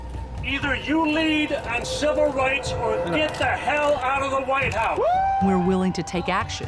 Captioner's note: cheers